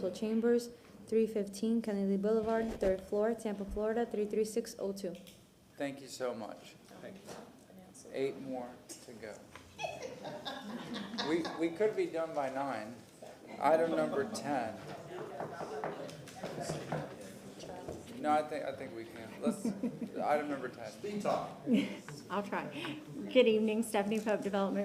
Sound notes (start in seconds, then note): 15.3 laughter